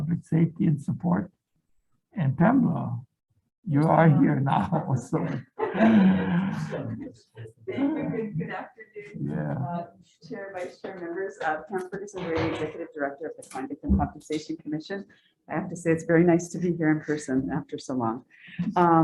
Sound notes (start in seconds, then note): 3.9 group laughing